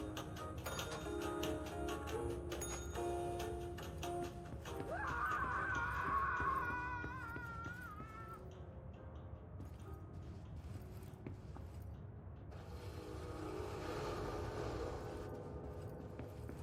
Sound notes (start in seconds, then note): 4.9 painful screaming